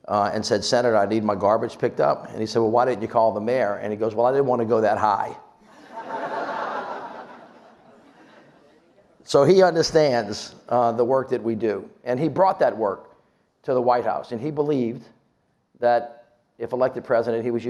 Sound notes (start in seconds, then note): 5.7 audience laughs